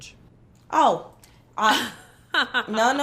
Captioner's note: laughs